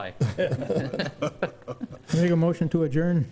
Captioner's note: laughing